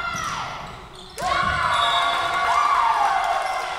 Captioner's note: whistle blowing